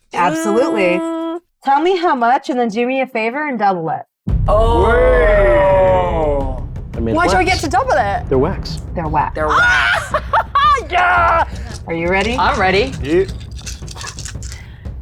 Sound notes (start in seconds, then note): 9.5 laughs